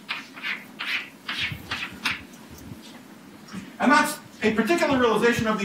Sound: chalk writing on chalkboard

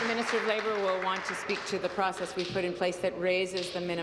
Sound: applause

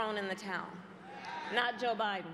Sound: crowd booing

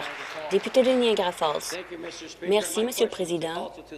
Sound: applause

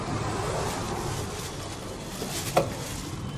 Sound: nylon rustling; car door opening

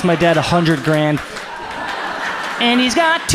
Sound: audience laughs

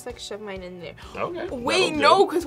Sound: gasps

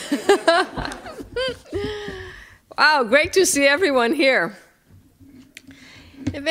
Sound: laughter

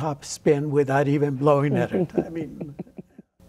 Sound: laughter

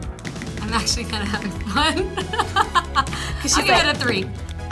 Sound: laughs

